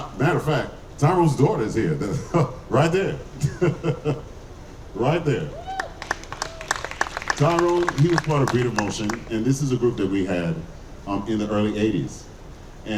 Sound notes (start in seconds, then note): 3.3 laughing; 5.7 audience clapping